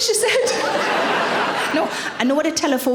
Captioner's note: audience laughing